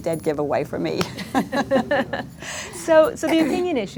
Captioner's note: laughs